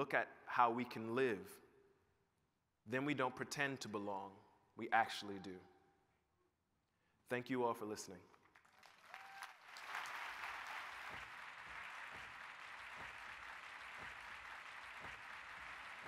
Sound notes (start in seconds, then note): 8.3 applause